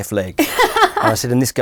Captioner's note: laughing